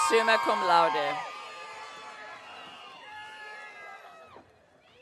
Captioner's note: audience cheering